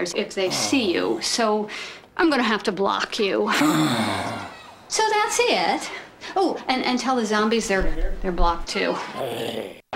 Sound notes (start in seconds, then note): 3.5 groans; 9.1 grumbles